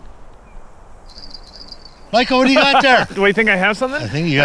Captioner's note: bell jingles